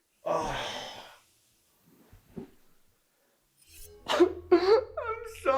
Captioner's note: man yells muffled words and gasps last breath; Greg sobbing